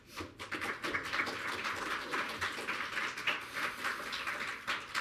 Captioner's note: audience clapping